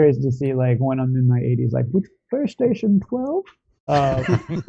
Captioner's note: in an old man voice; laughter